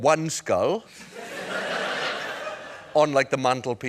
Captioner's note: laughter